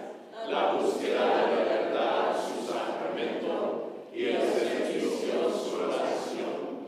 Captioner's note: congregation speaking in foreign language